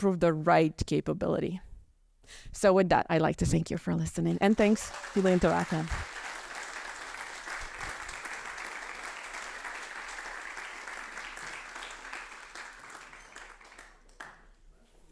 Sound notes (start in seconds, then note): 4.7 audience applauding; 7.4 generous applause ringing